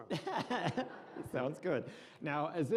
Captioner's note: laughing